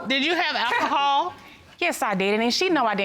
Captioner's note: scoffs